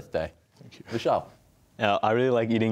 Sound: quietly

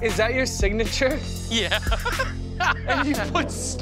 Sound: laughs

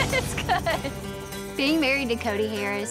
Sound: giggling

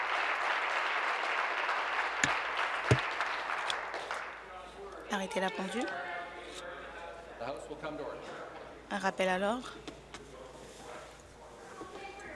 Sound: applause

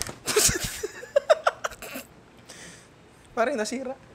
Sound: laughs

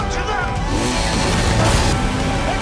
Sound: vroom

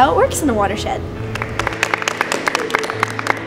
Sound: clapping

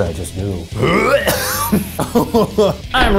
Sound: gags and coughs; laughs

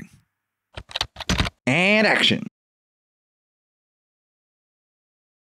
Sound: typing

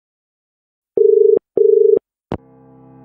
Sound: dial tone

